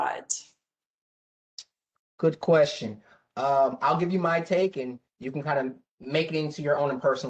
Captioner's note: professor speaking